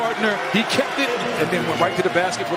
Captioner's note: cheers and applause